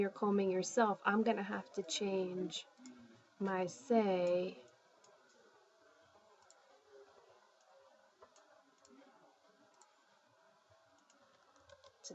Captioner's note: spanish